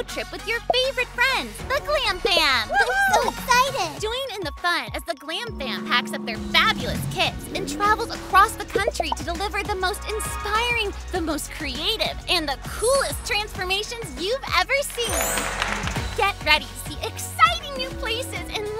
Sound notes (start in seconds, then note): 15.1 audience applauding